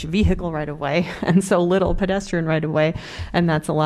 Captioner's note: laughter